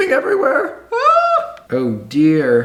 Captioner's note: yells